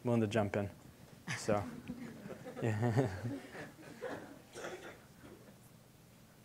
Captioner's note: audience chuckling